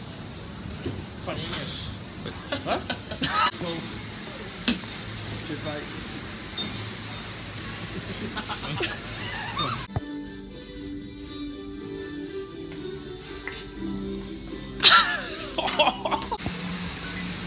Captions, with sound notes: Sorry *Laughs* Huh? Excuse me mate *Laughs* *Laughs*